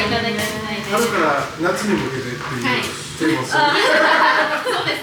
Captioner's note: laughs